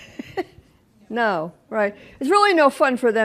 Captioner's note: laughs